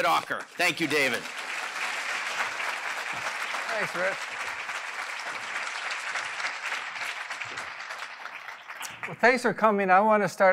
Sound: applause

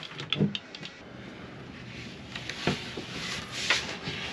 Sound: loading sounds

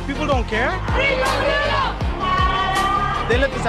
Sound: crowd shouting

